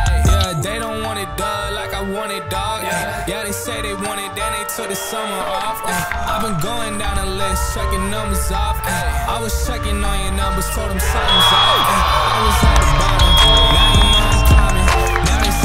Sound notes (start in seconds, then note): 10.3 crowd cheering